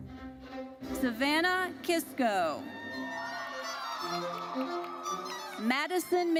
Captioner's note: audience cheers